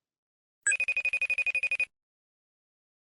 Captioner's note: facetime ringtone